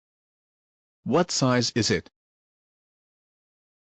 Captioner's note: voiceover